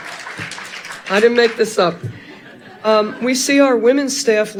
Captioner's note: audience laughing